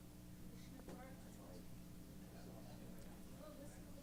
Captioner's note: background conversations